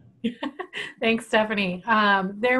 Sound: laughing

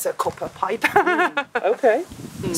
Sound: laughter

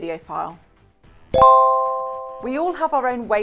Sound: chimes ding

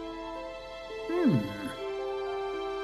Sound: grandpa chuckles

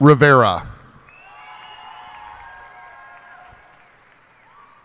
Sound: cheers and applause

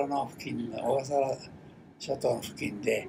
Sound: foreign language

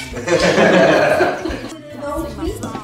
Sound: laughes

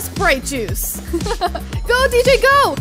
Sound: giggling

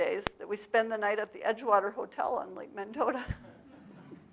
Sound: laughs; audience laughs

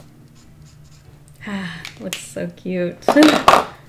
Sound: none

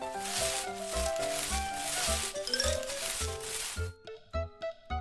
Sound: bushes rustling

